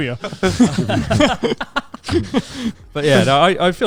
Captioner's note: all laughing quickly